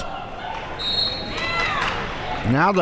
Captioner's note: whistle blows